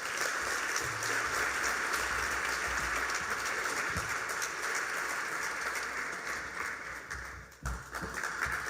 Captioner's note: applause